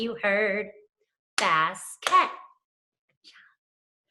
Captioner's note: clapping